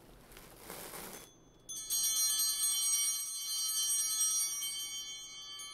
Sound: bell ringing

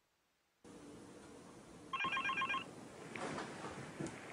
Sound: phone rings

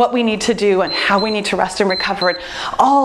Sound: timer beeps

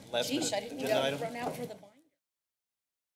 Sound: background conversations

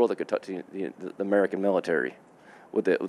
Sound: none

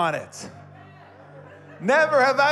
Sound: congregants laughing

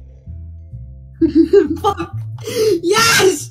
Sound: giggles

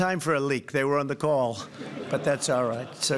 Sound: laughter

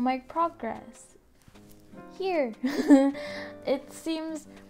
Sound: nervous laugh

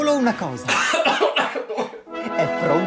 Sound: coughing

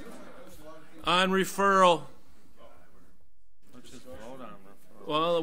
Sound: overlapping chattering

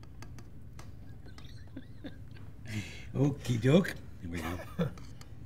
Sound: chuckles

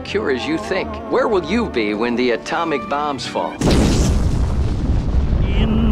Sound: television

